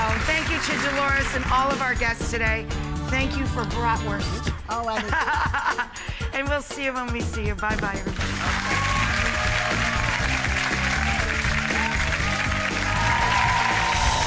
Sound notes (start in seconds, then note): 4.9 laughing; 8.5 upbeat music; 10.1 applause; 11.1 audience cheering